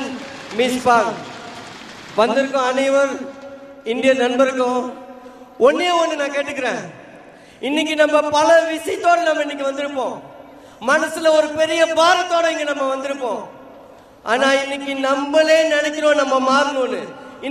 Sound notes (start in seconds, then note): 3.8 speech in Indian